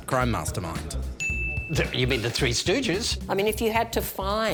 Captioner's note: ding!